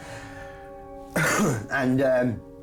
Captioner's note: coughs